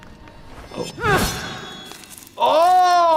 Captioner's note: blade dinging